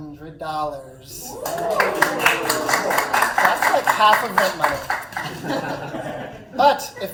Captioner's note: oohs, aahs, clapping